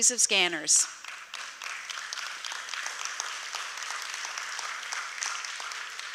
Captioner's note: applause